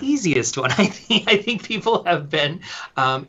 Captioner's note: laughing